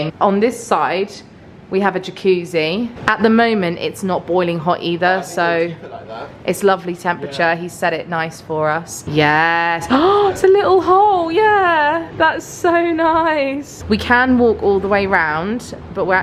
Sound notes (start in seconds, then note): 9.9 gasps